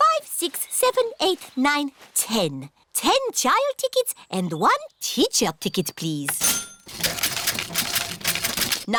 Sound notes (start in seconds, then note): 6.4 cash register dings